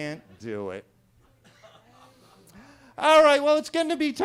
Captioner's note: attendees laughing